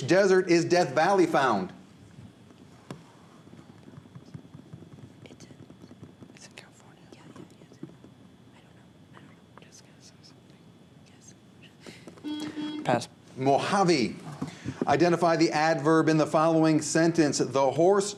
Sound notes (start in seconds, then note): 5.3 whispers; 12.2 buzzer